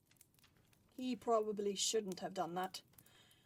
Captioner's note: fire crackles